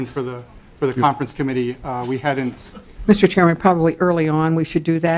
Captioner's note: laughing